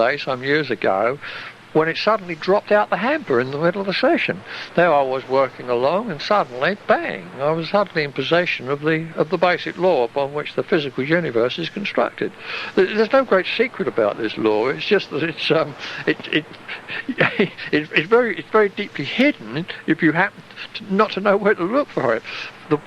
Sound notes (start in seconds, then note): 16.4 chuckle